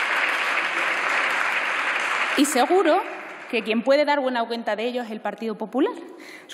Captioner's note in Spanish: Aplausos